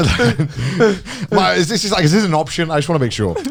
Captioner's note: laughs